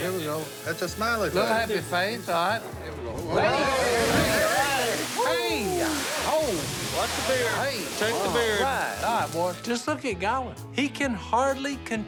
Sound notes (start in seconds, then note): 3.2 remarks of amazement